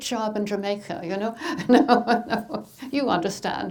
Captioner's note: laughing